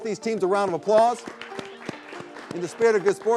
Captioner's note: all applauding